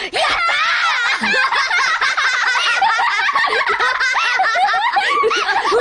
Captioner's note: boy and girl laughing